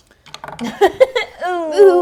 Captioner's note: laughs